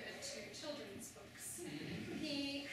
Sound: laughter

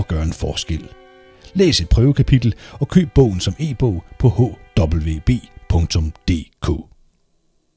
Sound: in Danish!

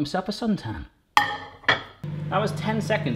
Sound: clink

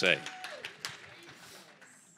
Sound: congregation applaud

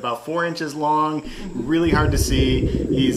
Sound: ocean whistling gently

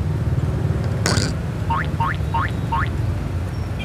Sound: enthusiastically chewing

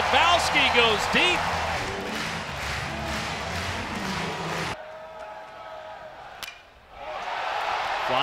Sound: cheers

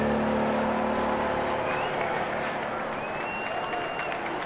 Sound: crowd cheering

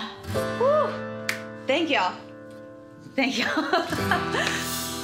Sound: laughs

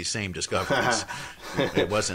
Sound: laughs

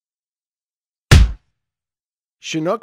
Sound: punch sound

